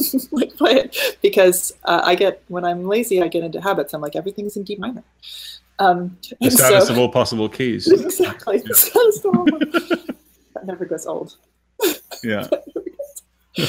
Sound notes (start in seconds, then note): 7.8 laughing